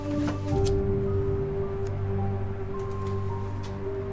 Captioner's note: lighter flickers